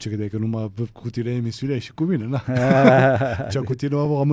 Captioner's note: laughter